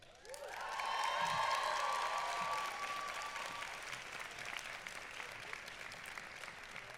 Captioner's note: applause